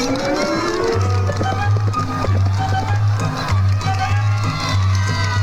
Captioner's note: crowd cheering